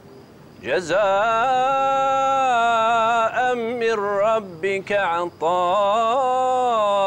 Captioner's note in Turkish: Arapça kuran okunuyor